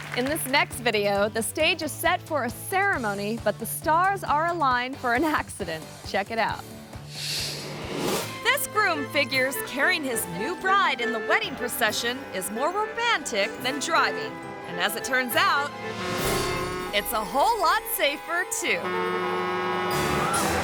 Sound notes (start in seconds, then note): 7.7 screen whooshes; 16.0 truck horn blares; 18.7 truck horn blares; 20.4 truck crashes